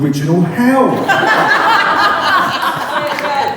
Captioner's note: laughter